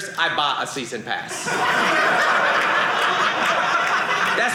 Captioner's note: audience laughing